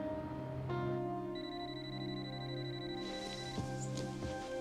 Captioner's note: phone ringing